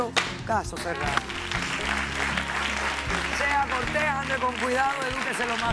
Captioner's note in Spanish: aplausos